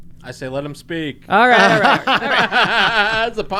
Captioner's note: laughing